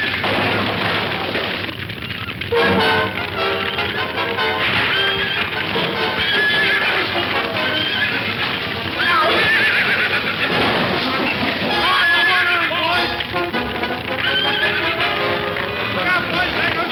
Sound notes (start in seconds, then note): 0.1 dramatic music; 0.1 fire crackling; 5.7 horse whinnying; 12.3 horse whinnies; 16.1 fire crackling; 16.1 objects crashing